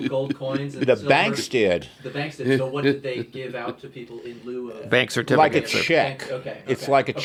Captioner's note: laughs